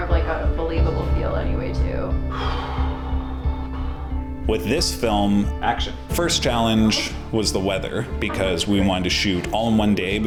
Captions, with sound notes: >> that gives it a more believable feel anyway too. >> (deep breath) With this film... "Action!" first challenge was the weather because we want to shoot all in one day